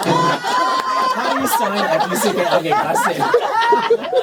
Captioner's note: laughter; laughter